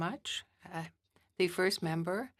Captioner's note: speaking French